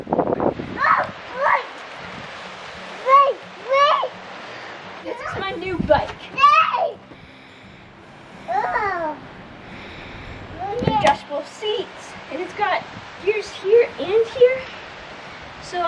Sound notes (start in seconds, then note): 0.8 child yells